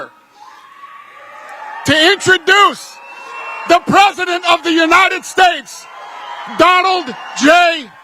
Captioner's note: applause